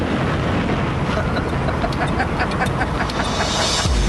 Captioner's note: смее се маниакално